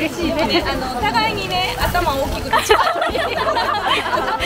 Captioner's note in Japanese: 笑い